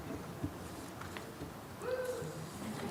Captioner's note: audience member wooing